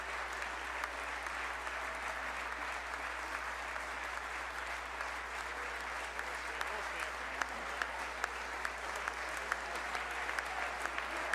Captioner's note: applause